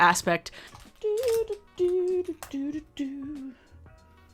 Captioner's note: humming